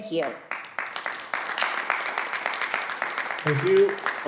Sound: audience clapping

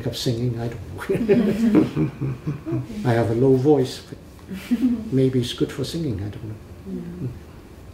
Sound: laughs

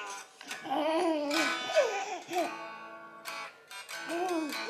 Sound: laughs inaudibly

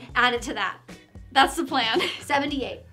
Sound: laughing

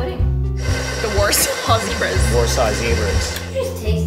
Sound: laughing

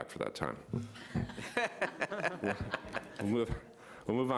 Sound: everyone laughs

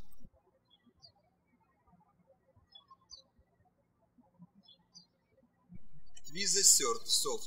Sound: birds chirping

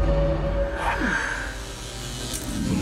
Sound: electricity buzzing

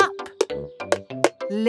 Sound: taping

